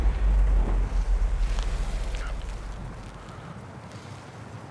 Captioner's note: wind blowing